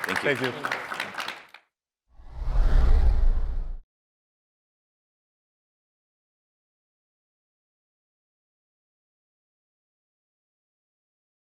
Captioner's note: applause